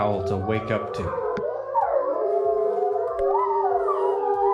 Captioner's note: wolves howling